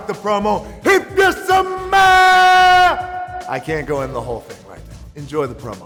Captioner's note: shouting